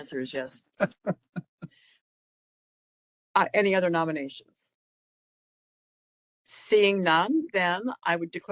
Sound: laughing

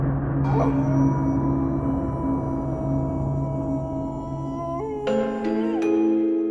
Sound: howling

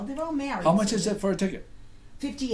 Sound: voiceover

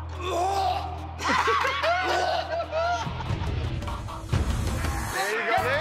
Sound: laughter

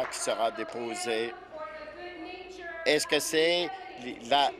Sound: applause

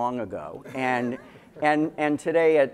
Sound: laughter

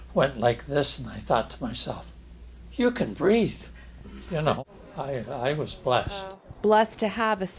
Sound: inhales

